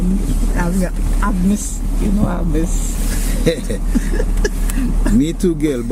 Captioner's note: laugh